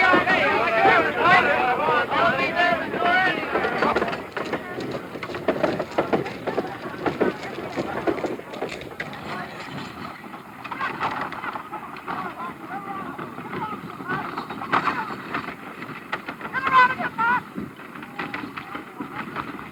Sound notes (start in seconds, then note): 0.0 wagon wheels rumbling; 0.0 men yelling; 9.6 men yelling; 9.6 wagon wheels rumbling